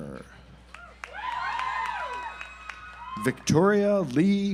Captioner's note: audience applauds